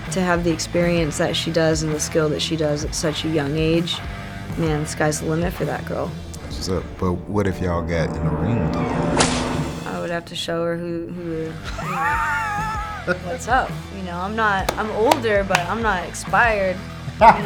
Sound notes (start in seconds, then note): 9.0 intense dramatic music; 9.0 whip cracking; 11.2 Spice laughing; 11.6 Spice laughing and claps; 17.2 Spice laughing